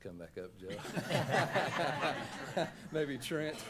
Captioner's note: laughing